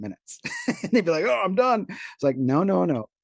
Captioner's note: laughs